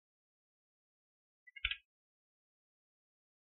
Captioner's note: door opens